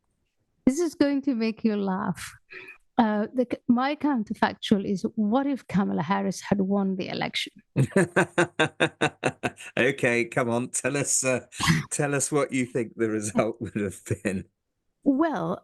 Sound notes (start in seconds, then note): 7.8 laugh